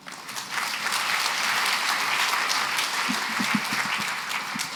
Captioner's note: applause